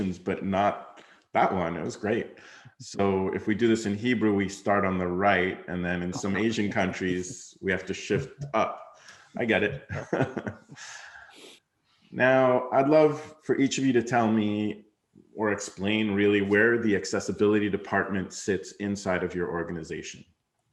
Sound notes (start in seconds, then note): 9.4 laughs